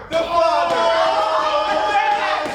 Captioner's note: the Players yells